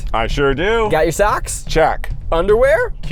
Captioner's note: none